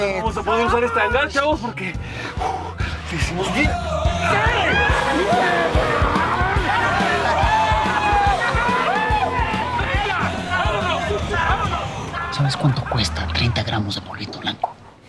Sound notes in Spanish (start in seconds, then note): 3.7 Gritos y exclamaciones